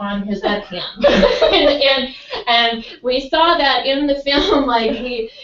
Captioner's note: laugh